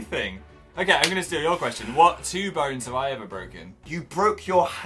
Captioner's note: claps